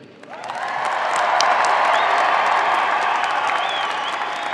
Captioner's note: audience applauds